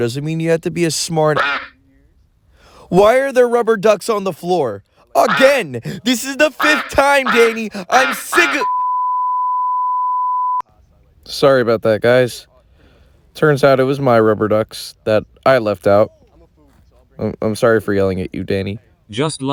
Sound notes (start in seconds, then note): 1.3 quack; 8.6 beep